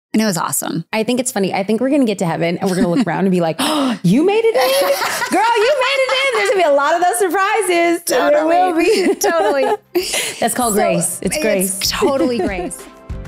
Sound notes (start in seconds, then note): 3.6 gasps; 4.5 laughing; 13.0 cheerful music